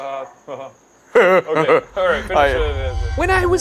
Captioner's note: fake-laughing